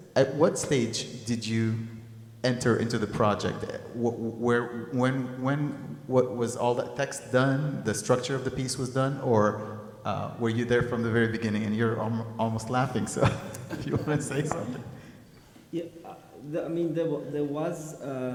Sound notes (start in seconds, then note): 12.8 laughs